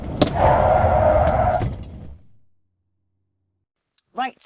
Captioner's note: tyres screeching